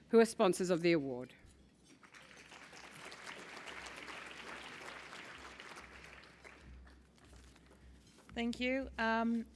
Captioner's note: applause